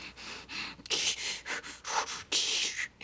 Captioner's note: candy breathing heavily